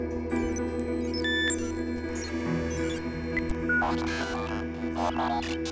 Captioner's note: futuristic beeping